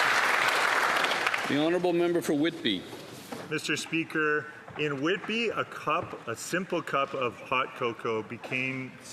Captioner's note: applause